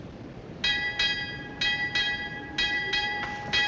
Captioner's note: ships bell ringing